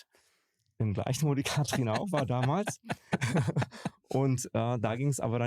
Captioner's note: lacht